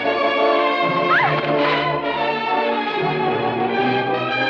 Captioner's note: shrieks